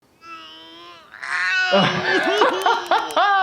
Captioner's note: person groaning; laughing